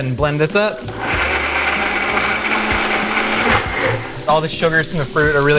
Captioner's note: mixer whirs